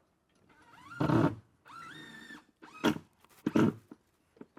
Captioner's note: drill whirring